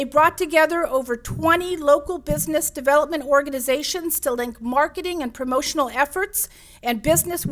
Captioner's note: none